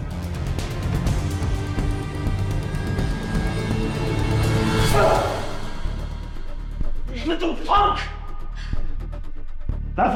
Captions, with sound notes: (slow dramatic music continues) (Boris cries out) - You little punk!